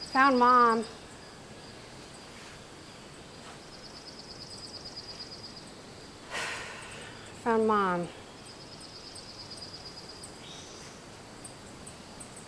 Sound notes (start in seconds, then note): 6.2 sighs